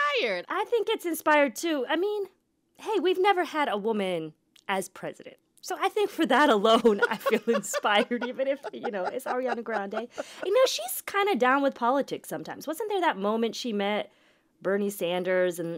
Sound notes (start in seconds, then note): 6.5 laughter